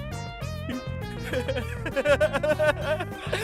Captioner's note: laughing manically